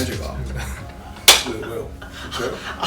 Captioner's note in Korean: 웃음